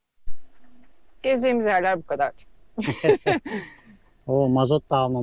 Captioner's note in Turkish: kahkaha